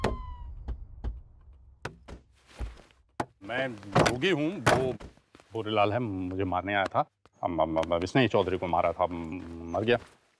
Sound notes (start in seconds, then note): 1.8 Car door opens; 3.9 Car door closes